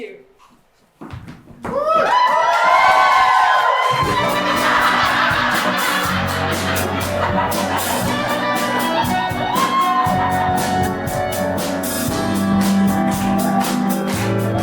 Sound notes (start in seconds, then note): 1.7 BLACKOUT – Transition music plays; 2.0 evil cackling responded to by audience boos